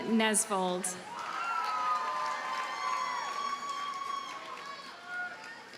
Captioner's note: audience cheers and applauds